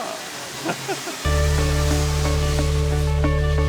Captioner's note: laughs; uplifting music